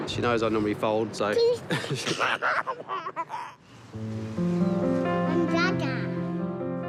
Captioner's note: chuckles